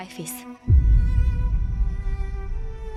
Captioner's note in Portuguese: impacto